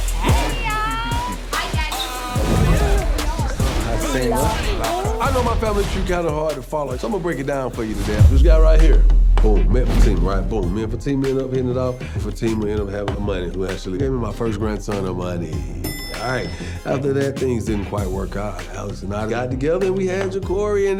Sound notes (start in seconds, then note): 1.9 attendees faintly speaking